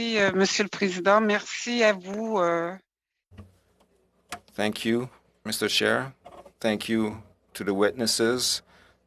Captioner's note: speaking French